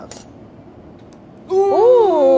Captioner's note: snapping